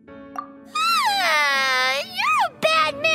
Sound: cries

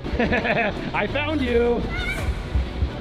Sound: Dr. Mad Scientist laughs

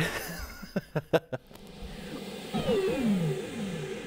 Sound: laughing

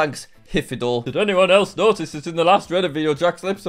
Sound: mockingly

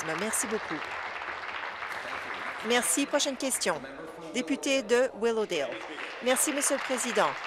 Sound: applause

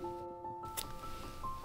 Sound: snip

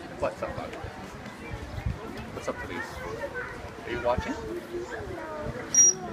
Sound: various people in crowd talking; trainer blows high-pitched whistle for a fraction of a second

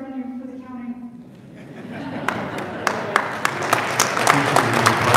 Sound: audience applauding

